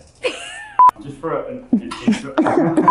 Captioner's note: digital beep; laughs